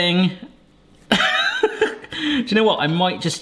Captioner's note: laughing